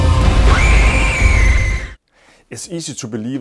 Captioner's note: screaming